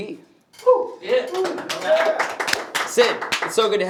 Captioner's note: clapping